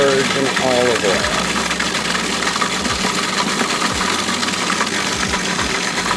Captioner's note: food processor whirring continues